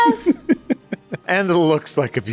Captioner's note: chuckles